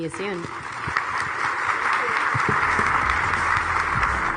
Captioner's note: audience applauding